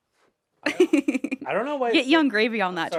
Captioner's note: Anthony laughs; laughs